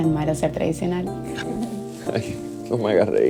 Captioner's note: laughing